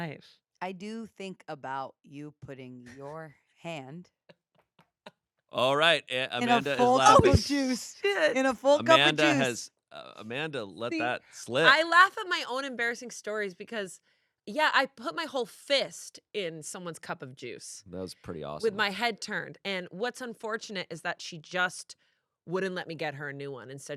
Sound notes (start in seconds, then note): 2.8 laughs